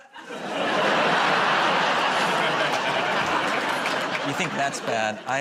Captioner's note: laughter